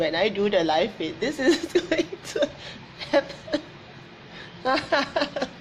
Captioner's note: laughs